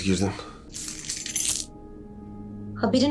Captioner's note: key rattle